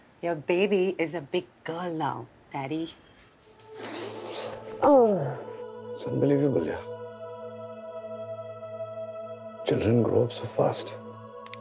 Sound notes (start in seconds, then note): 4.8 Ananya sighs